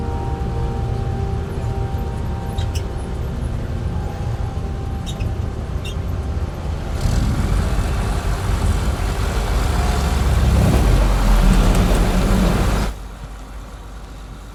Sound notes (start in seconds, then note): 4.3 tractor sound continues